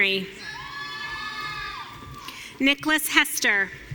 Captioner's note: audience cheering